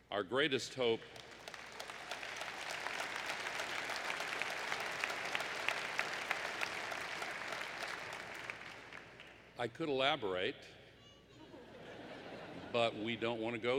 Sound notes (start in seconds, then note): 3.0 applause; 11.2 laughter